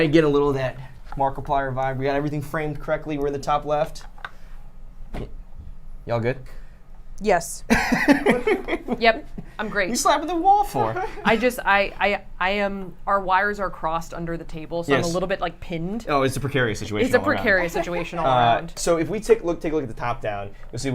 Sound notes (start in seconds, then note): 7.7 laughter